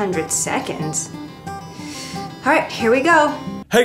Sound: takes deep breath

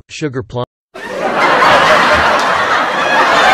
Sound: crowd Laughs out of Nowhere

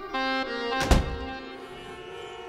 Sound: door closes

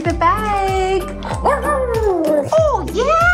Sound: howling

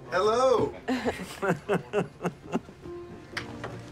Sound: laughing

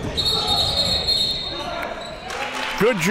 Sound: whistle

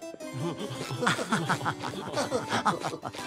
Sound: laughing

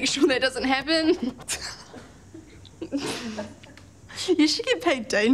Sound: both laugh

